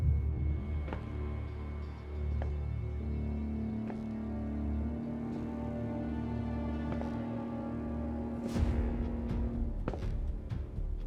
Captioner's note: slow footsteps